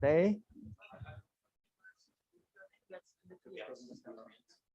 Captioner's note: background chatter